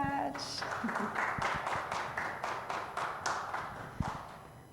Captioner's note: audience clapping